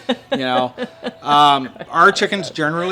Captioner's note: laughing